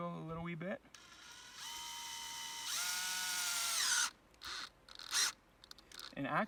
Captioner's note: drill sounds